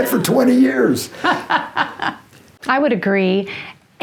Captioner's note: chuckling